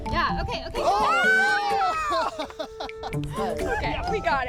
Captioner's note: cheering